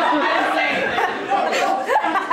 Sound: audience laughter

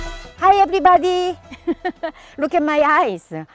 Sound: laughs

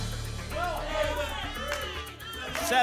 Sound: audience shouting numbers

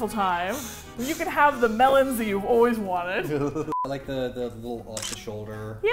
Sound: laughs

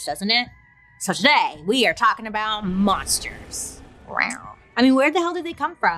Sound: lightly growls

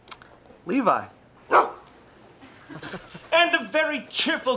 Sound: barking

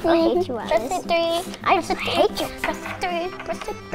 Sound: hums victory song; chanting

